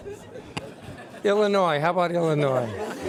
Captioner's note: laughter